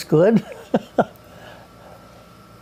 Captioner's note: laughs